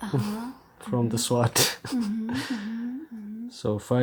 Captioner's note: laughing